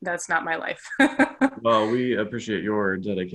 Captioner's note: laughs